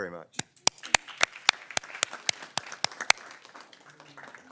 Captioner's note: everyone claps